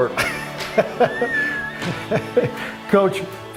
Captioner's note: laughs